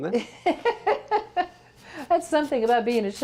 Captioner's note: laughs